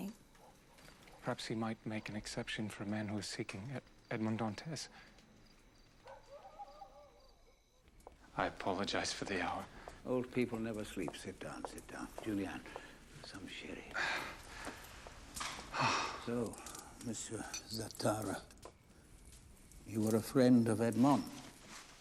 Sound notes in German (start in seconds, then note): 6.0 Hundebellen; 15.7 Seufzer